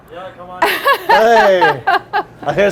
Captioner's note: laughing; starts laughing